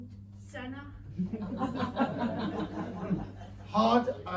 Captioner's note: audience laughter